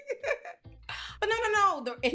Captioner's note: laughing